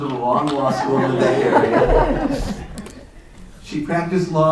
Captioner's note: laughter